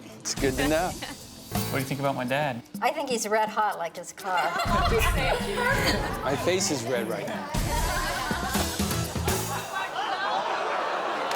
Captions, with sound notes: - That's good to know. - What do you think about my dad? - I think he's red hot like his car. (everyone laughs) - My face is red right now.